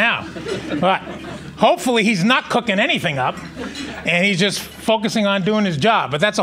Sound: laughing

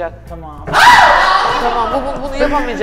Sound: cries

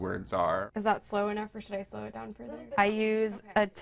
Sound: people talking in the room

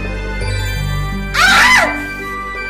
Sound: yelps; screams

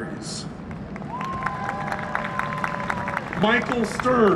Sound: applause and cheering

